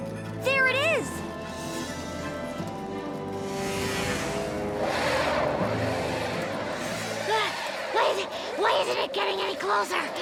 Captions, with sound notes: - There it is. (tense music) (tires whirring) - Why isn't it getting any closer?